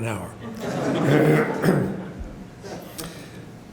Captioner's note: audience laughter